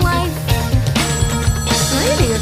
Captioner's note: phone ringing